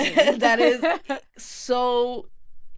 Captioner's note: chuckles